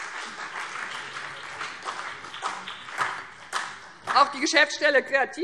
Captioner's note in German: Beifall BÜNDNIS 90/DIE GRÜNEN und vereinzelt CDU